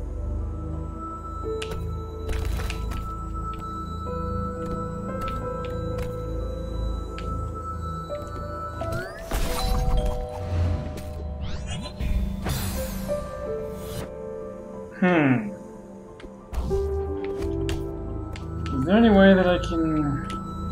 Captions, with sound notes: [doorbell] Hmm. Is there any way that I can...